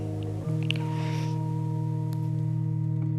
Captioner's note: sniffles